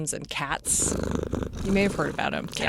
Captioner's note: cat purring